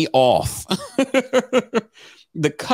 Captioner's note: laughs